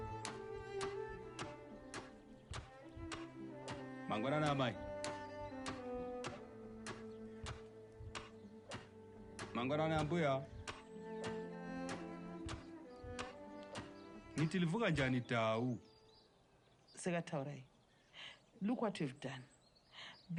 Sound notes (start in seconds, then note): 14.1 in Ndebele